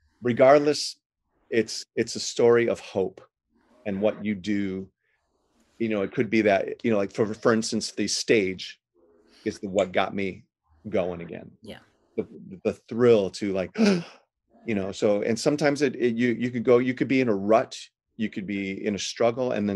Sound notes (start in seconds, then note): 13.7 breaths deep